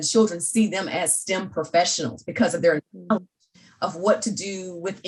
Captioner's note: audio glitching